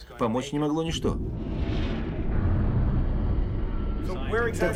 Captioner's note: metal creaking